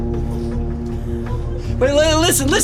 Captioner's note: crying